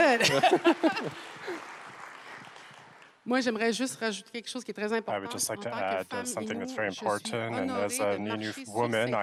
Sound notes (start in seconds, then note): 1.7 applause; 3.5 speaking French